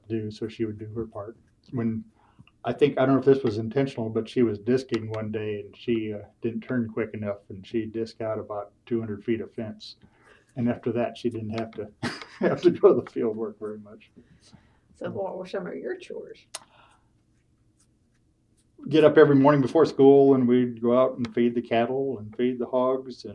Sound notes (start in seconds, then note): 14.5 laughs